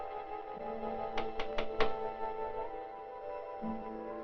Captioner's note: knock at door